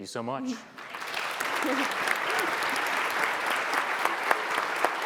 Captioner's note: audience applauds